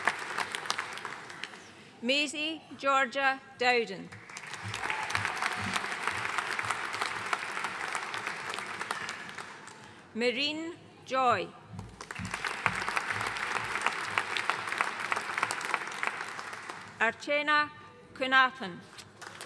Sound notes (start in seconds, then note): 4.1 audience cheering and applauding; 11.9 audience applauding; 19.2 audience applauding